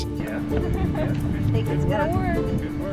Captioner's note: laughing